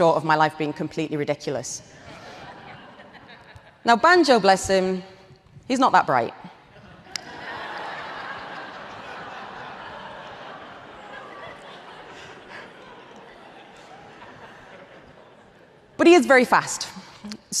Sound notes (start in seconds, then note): 1.9 audience laughs; 7.2 audience laughs